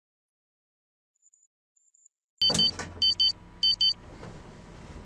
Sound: ringtone

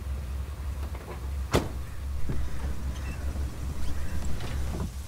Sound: car door closing

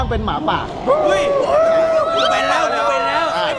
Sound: yelling

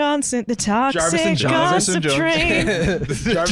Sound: laughing

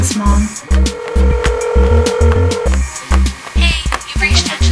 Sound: phone rings

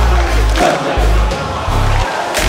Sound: clap

